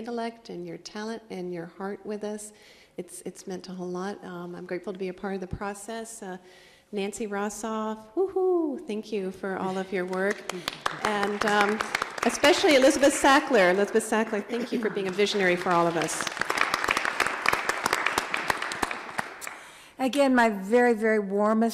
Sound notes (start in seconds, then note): 7.8 cheers; 17.7 applause